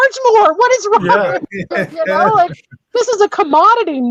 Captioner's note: all laugh